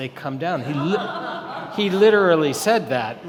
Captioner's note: audience laughing